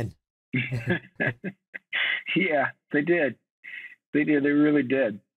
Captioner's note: chuckles